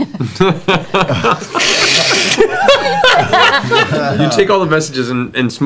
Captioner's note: laughter